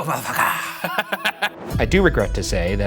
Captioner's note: laughs